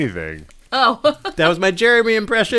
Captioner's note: laughter